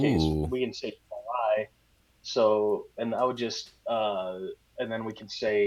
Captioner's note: audio becomes choppy